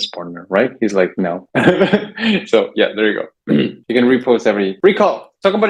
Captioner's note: laughs; clears throat